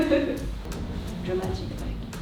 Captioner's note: laughs